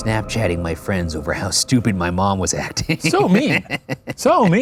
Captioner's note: laughs